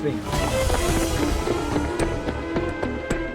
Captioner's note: klaxon sounding